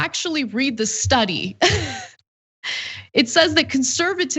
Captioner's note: laugh